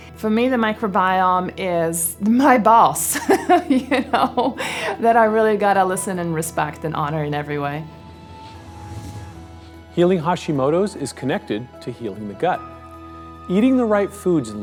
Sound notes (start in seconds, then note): 8.0 whooshing